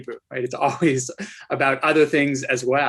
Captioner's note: chuckles